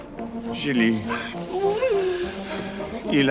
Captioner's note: Jilly whimpers; John speaks French